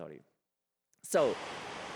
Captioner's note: static